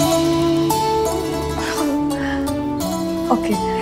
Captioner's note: Gauravi laughs